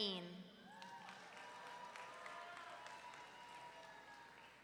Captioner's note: audience cheering